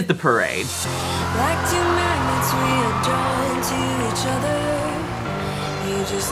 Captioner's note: cheering